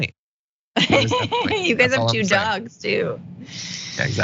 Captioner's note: laugh